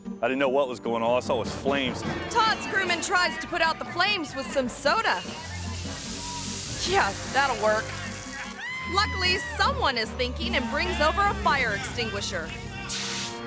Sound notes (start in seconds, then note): 5.4 smoke hissing